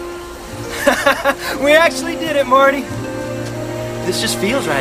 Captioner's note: laughs